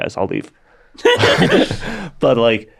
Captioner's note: everybody laughs